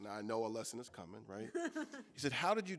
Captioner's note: laughing